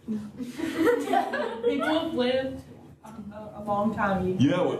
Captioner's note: laughter; laughter